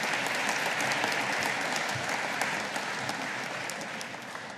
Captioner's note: audience applauding